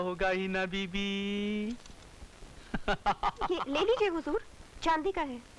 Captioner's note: Laughs